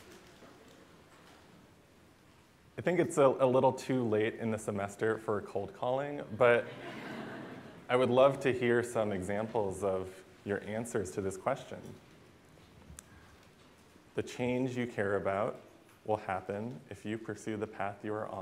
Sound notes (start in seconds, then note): 6.6 laughter